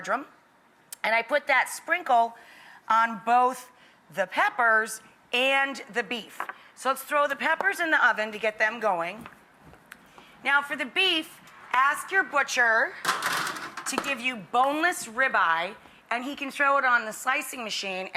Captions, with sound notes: and I put that sprinkle on both the peppers and the beef. So, let's throw the peppers in the oven to get them going. Now, for the beef, ask your butcher (tray rattles) to give you boneless rib-eye and he can throw it on the slicing machine